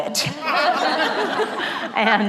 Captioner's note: laughter